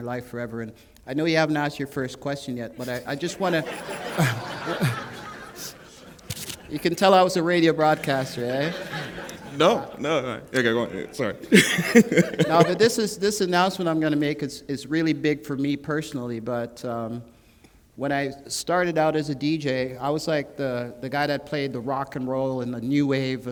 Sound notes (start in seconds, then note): 2.8 laughter; 12.3 laughter